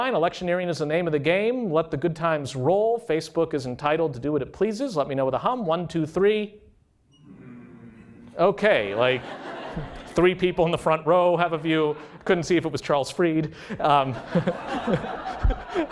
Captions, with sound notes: Electioneering is the name of the game. Let the good times roll. Facebook is entitled to do what is pleases. Let me know with a hum. One, two, three. [SOFTER HUMMING] OK. Three people in the front row have a view. Couldn't see if it was Charles Fried. [LAUGHTER]